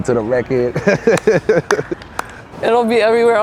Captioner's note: laughs